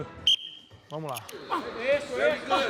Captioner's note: whistle blows